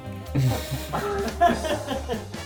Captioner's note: laughing